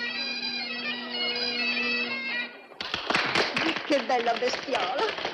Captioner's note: applause